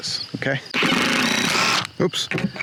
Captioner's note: grinding drill whine